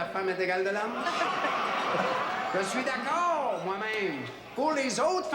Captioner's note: audience laughs